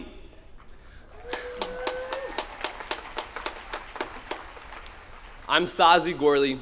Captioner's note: applause